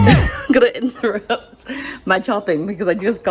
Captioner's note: laughs